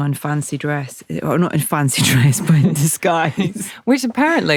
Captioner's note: laughs